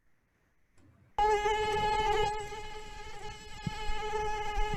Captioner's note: mosquitoes buzzing